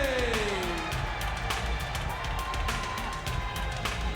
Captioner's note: audience cheers